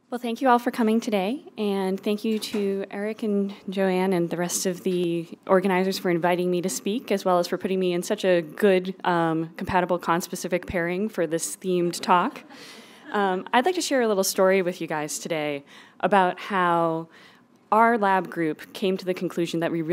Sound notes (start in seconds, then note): 12.3 laugh